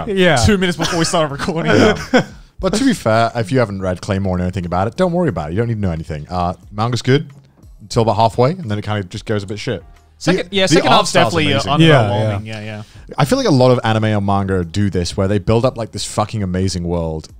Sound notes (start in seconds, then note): 3.3 laughing